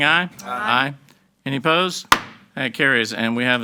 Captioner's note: gavel banging